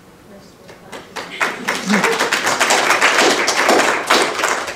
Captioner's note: applause